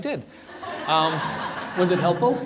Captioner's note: laughter